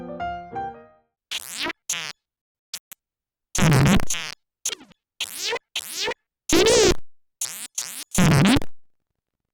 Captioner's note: C64 simulated speech